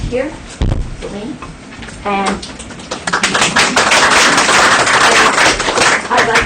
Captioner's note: applause